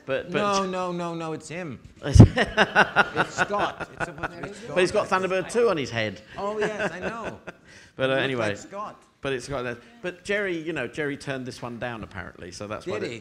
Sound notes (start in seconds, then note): 2.2 audience laughing; 6.4 laughing